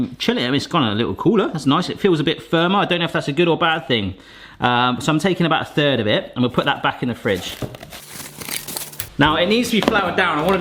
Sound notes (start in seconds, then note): 7.2 plastic wrap crinkling